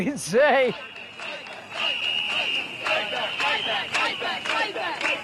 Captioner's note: crowd